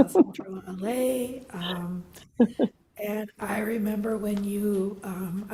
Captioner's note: laughs